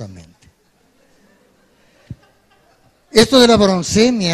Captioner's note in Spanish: Risas